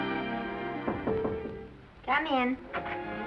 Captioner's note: knocking on door; door opens